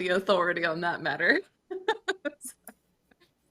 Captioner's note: laughing